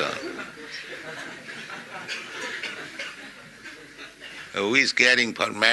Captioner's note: laughter